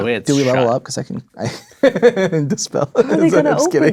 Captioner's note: laughing